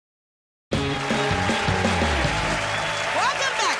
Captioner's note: cheers and applause